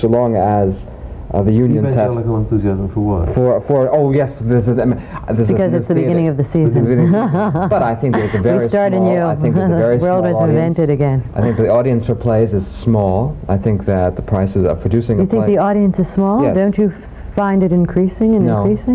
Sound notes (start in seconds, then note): 6.7 laughter